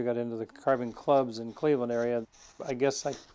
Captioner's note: tool scraping